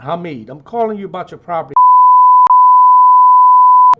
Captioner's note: beep